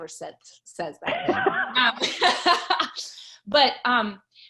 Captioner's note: laughs